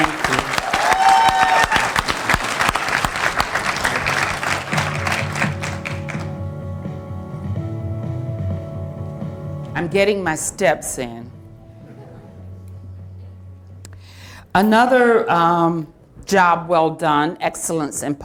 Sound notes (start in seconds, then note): 6.9 applause